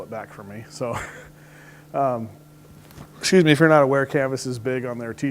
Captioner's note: laughs